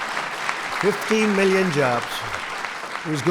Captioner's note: applause